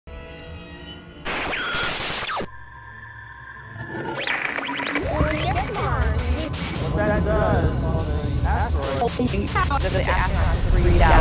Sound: sound Effects

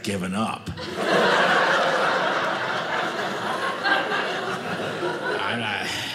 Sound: audience laughing

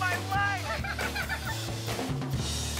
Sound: giggling together

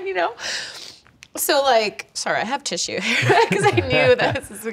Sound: chuckles

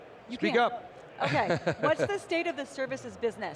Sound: laughs

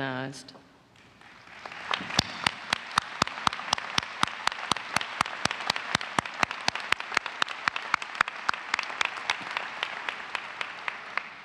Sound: applause

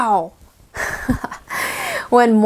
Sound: laughs

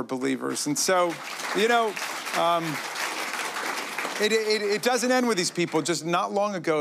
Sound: applause

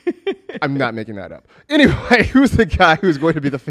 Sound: laughs

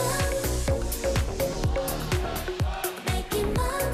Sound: fanchant

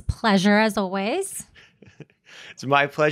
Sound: laughs

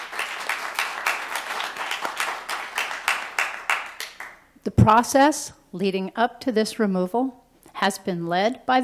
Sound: applause

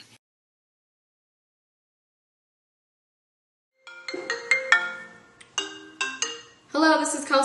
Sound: phone rings

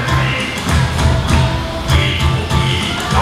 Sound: stomping

